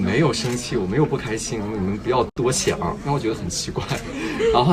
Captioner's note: haha